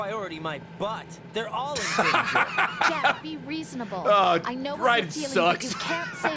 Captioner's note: laughs